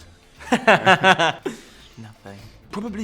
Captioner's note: laughter